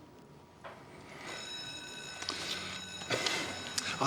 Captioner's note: schoolbell rings